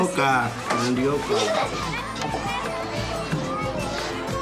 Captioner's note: speaking In Foreign Language